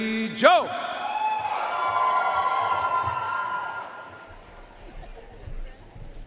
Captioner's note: audience cheering and applauding